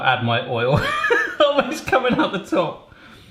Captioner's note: laughs